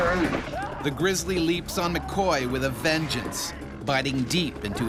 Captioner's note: bear growling; voiceover